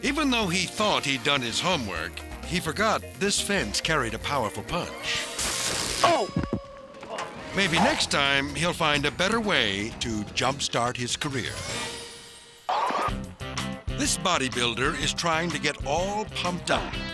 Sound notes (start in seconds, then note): 5.2 electricity zapping; 12.8 comical music